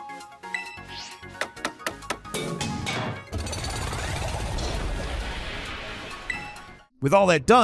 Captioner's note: upbeat music; hammer banging; metal clanging